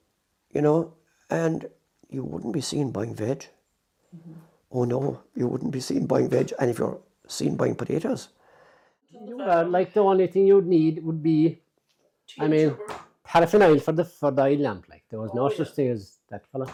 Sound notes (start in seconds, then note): 7.9 scoff